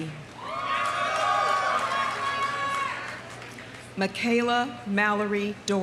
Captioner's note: audience cheering; audience applauding